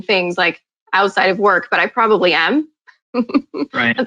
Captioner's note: chuckling